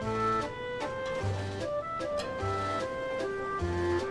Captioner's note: jiggles